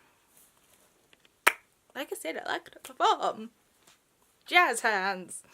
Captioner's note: tongue Pop